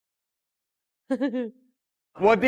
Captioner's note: haha